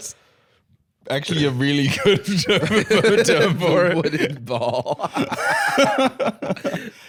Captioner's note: laughing